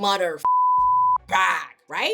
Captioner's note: beep